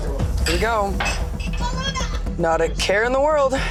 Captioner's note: glasses clinking